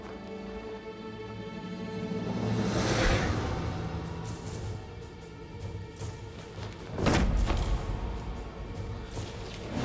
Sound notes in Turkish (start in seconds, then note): 6.9 Düşme sesi